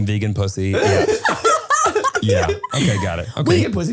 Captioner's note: laughing